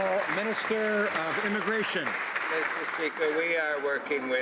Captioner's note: some Applause